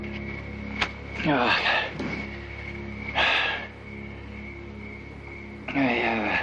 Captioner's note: still panting